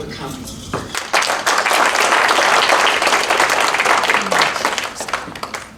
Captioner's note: applause